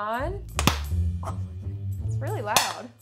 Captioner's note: corn popping